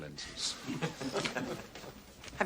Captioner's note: laughter